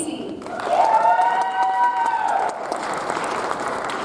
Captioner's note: audience applauds